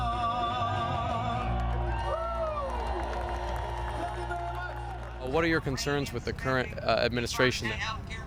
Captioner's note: cheering